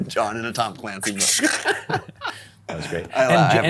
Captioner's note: laughs